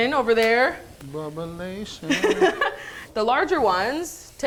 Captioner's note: laughs